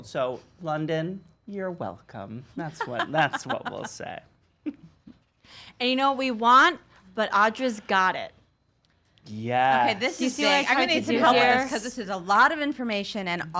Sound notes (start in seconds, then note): 2.6 laugh